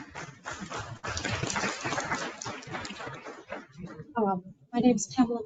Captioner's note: audience applauding